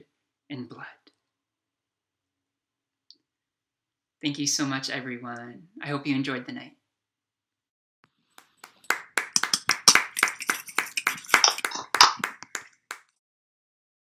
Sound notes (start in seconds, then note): 11.2 applause